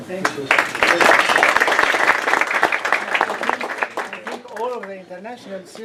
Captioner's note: applause